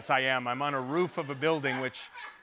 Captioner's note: laughter